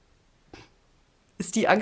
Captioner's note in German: schnauben